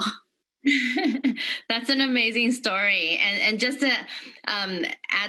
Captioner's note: laughter